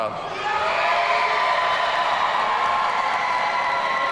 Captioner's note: audience cheering